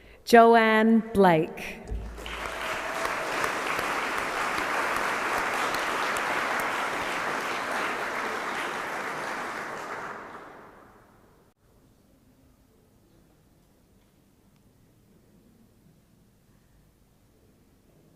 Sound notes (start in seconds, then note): 4.3 applause